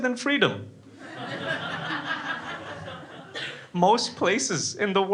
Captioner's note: crowd laughing